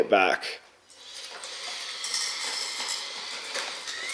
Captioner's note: excavator squeals